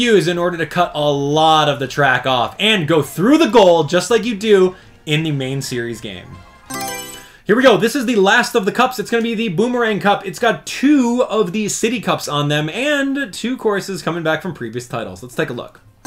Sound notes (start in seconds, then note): 6.6 Mario Selection Sound